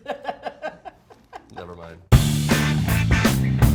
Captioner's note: laughing